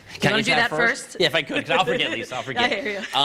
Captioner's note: laughter